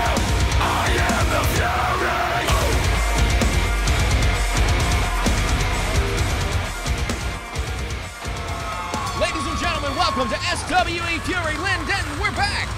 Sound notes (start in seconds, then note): 8.1 fans cheering loudly